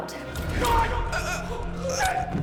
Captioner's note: gasps